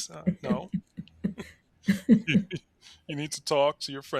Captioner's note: both laughing